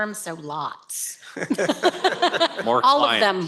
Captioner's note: laughter